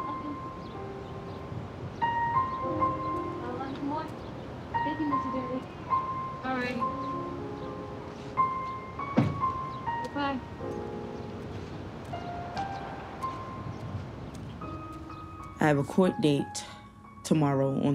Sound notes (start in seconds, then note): 9.1 car door closing; 13.3 solemn piano music